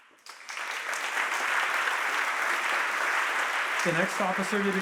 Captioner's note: audience applauding